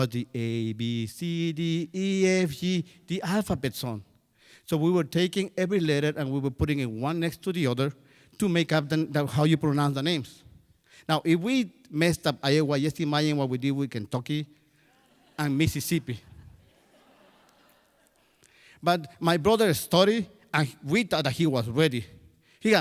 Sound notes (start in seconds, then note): 16.2 crowd laughs